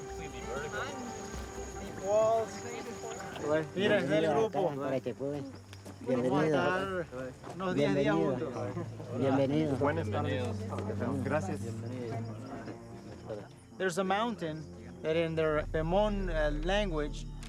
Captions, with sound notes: - Completely vertical. [speaking foreign language] - There's a mountain that in Pomoan language,